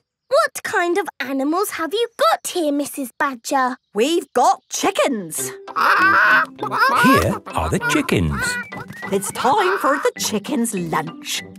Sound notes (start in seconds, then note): 5.7 clucking